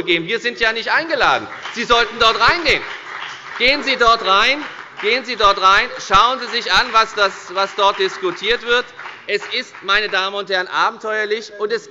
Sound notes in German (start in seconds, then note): 1.6 Beifall bei der FDP